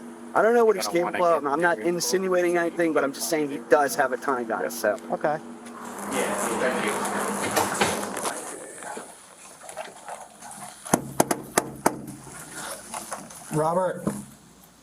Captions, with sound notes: I don't know what he's capable of. I'm not insinuating anything, but I'm just saying he does have a ton of guns, so... >> Okay. >> (talking softly) >> (knocking) Robert.